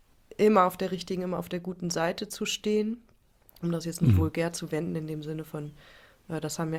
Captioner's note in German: räuspern